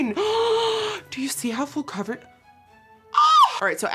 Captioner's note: gasps